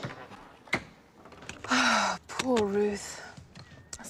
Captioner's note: menghela napas